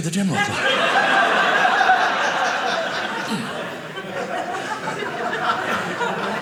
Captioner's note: audience laughing